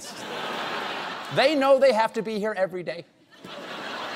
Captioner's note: laughter